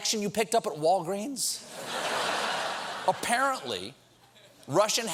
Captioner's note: laughter